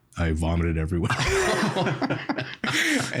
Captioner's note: all laughing